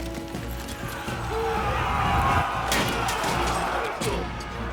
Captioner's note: yelling